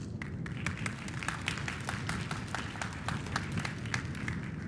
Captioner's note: applause